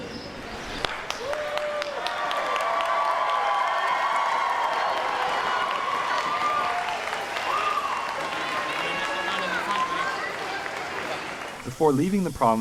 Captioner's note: applause